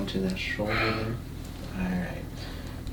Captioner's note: heavy breathing